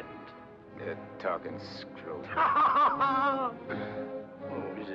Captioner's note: laughs